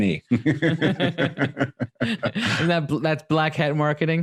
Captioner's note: laughing